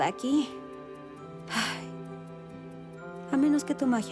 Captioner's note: sigh